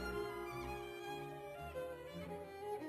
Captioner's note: none